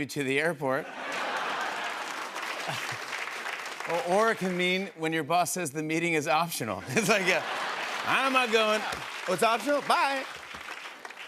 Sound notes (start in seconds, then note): 0.8 laughter and applause